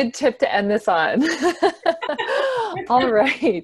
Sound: laughs

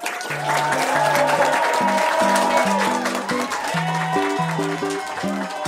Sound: applause and cheering

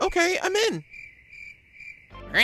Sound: crickets

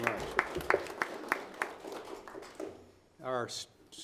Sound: audience applauding

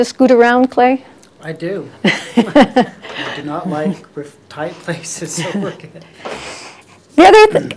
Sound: laughs

